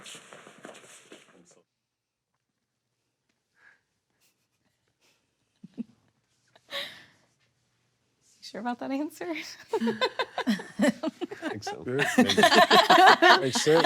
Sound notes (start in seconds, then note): 5.6 chuckling; 9.7 laughs; 12.0 everyone laughs